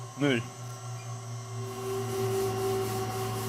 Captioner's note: whirring